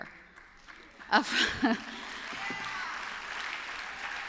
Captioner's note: applause